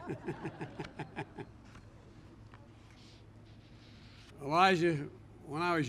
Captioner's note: laughter